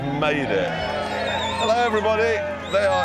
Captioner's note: crowd cheering